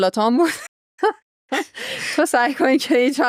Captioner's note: laughs